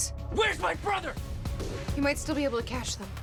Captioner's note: yelling